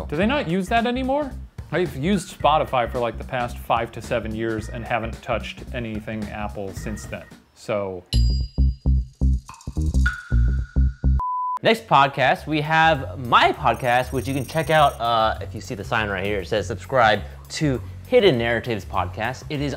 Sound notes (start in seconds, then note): 6.8 timer bings; 11.1 beep